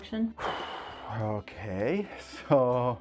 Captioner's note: sigh